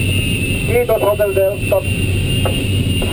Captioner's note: radio